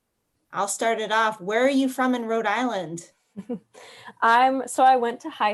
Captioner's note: laughs